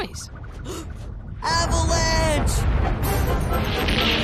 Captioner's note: gasps